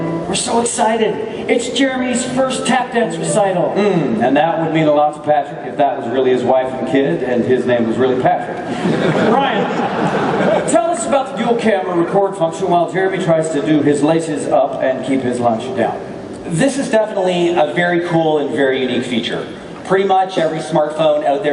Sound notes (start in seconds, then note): 8.7 laughing